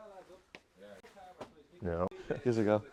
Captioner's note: dart sticking